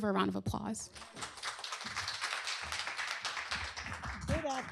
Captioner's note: applause